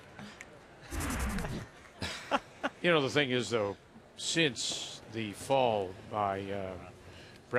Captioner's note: laughter